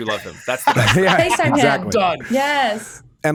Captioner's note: chuckles